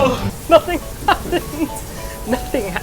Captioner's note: laughing